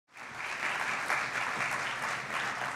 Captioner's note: applause